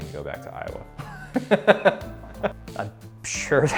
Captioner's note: laughing